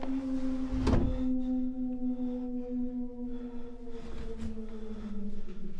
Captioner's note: wolf howling